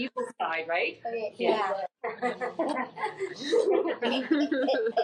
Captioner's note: laughing